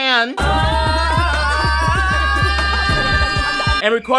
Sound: upbeat music; people screaming

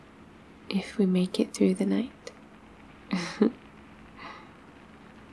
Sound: laughs

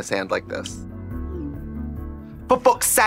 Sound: text delivering; British accent

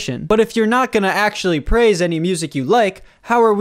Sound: none

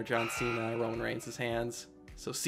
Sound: countdown timer buzzes

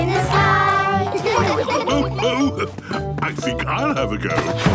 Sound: laughs

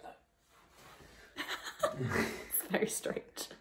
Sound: giggling

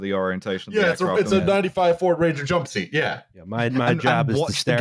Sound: laughs

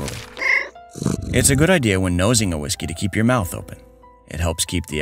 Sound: meow

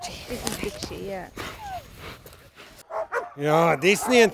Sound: dogs barking

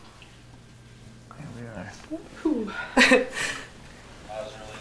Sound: emotional sniffles

